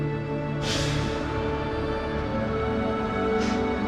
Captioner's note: air hisses; bus engine revving; poignant music